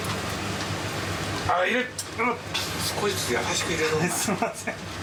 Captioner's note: chuckles